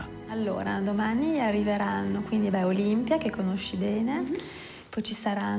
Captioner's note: speaks in foreign language